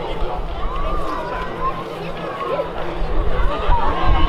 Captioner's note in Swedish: Applåder